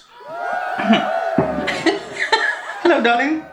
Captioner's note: cheerin